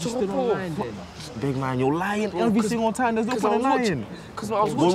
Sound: none

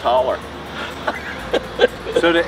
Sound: both Laugh

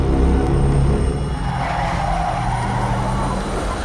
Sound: menacing music playing; tires screech

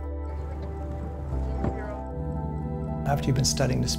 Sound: fin thuds

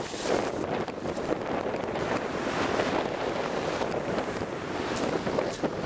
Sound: worse wind

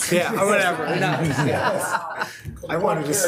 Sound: laughing

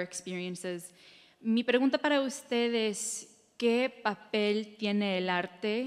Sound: speaking in Spanish

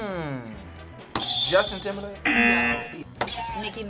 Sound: buzzer hisses; buzzer sounds

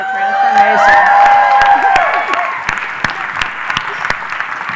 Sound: cheering; applause

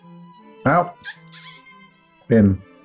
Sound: slurping

